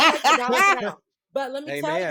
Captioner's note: laughter